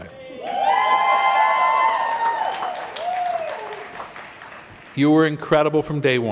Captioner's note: cheering